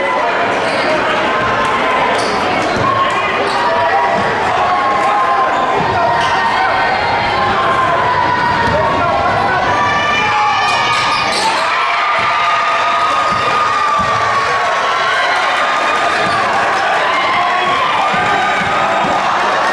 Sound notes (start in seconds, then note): 0.6 ball thudding; 0.6 crowd cheering; 11.9 louder cheering